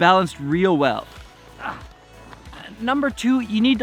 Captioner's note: grunts